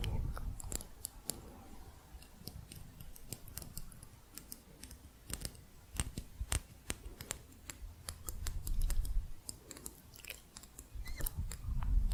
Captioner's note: light tapping on metal